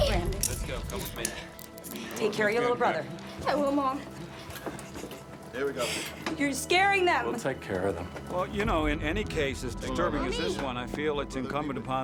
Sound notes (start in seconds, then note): 6.3 sobs